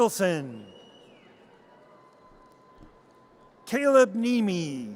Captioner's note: audience cheers